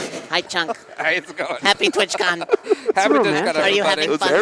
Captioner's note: laughter